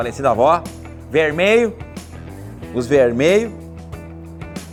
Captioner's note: accent from the south